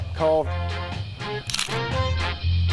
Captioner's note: click!